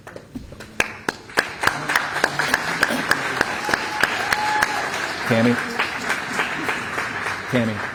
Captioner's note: applause